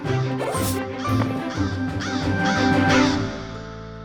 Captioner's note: bird cawing; woofs